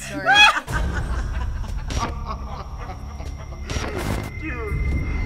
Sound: laughing

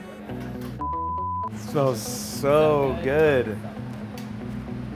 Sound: beep

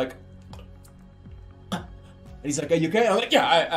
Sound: chocking

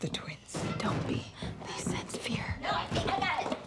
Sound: whispering

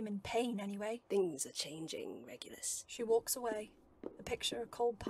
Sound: footsteps

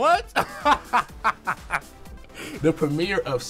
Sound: laughs

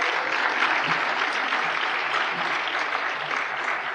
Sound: applause

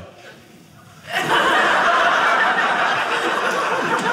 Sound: audience laughing

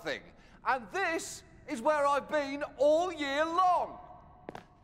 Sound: echoes

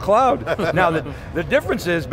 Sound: laughing

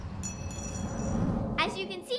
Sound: chimes jingling

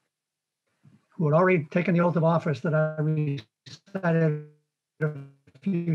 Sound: warbled audio

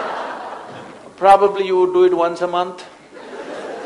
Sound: laughter; laughter

